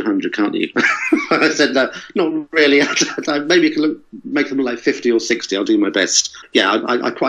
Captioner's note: laughs